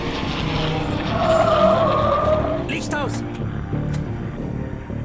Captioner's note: tires squeeling